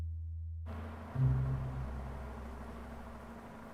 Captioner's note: car humming